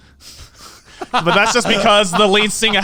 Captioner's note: laughing